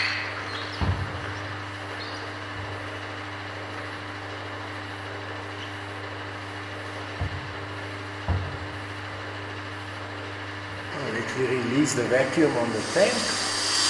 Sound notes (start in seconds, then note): 0.0 squeaking noises; 1.9 noise of the pump in the background